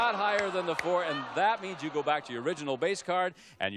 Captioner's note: audience groaning